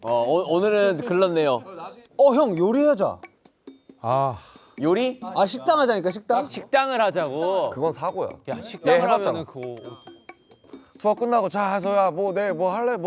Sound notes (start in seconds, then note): 4.3 deep sigh